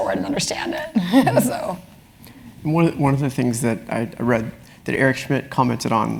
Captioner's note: laugh